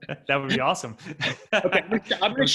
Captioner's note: both laughing